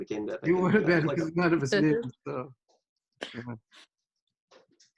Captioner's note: group chattering